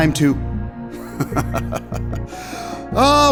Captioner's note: chuckles